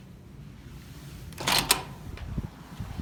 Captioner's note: click